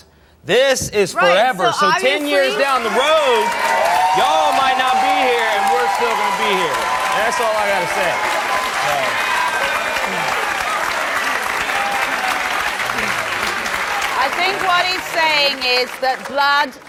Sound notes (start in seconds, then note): 3.1 audience cheers; 8.2 audience applauds